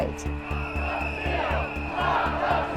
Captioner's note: crowd